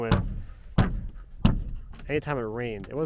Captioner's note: hammer thudding